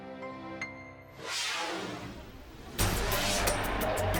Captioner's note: scene swooshing